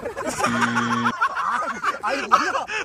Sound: omg hahahahahahahahahahahahahahaha

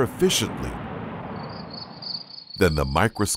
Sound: insects chirping

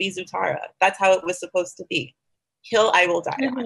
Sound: murmurs

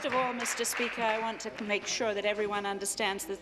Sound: applause

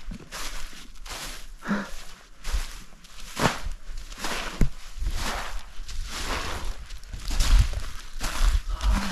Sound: crunchy footsteps

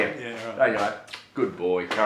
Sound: audible kiss

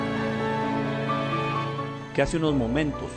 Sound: speaking spanish

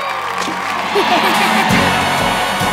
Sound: cheering; laughing

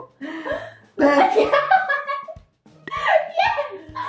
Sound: both giggling; cackles

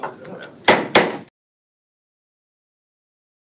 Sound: gavel taps

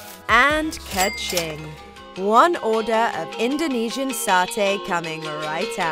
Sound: ka-ching!

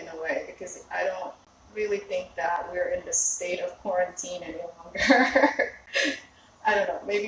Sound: laughs

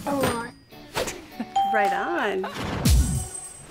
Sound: chuckles

